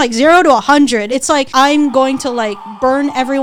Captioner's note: people screaming